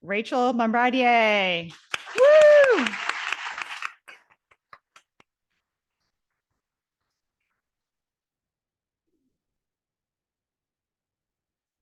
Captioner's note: audience applauding